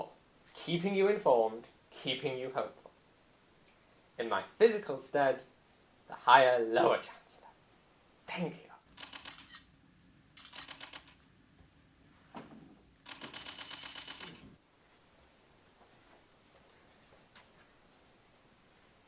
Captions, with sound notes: keeping you informed, keeping you hopeful. In my physical stead, the Higher Lower Chancellor. Thank you. *camera shutters and flashes*